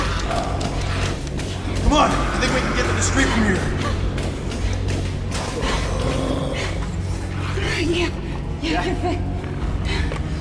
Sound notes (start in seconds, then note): 5.4 creature growls